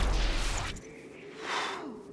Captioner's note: both shudder